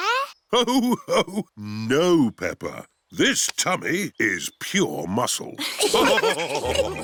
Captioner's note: laughs; all laughing